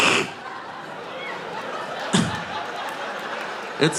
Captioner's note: audience laughing